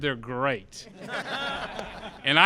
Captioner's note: laughter